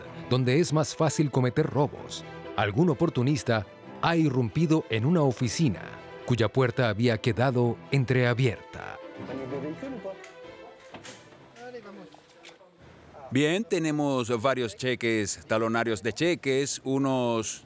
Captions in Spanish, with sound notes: Ayer por la mañana, hubo un robo oportunista en una oficina donde la puerta había quedado entreabierta. los oficiales acaban de ser puestos en el caso. [Audio hablado en francés] Bien, entonces tenemos varias chequeras,